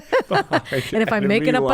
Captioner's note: laughs